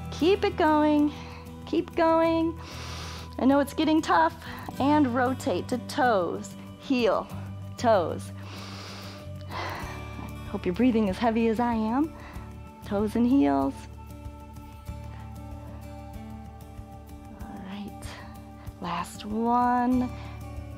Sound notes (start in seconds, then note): 2.6 inhales; 8.3 inhales and exhales